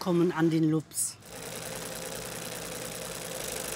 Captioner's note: machine rattling